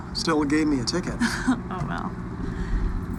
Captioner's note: chuckles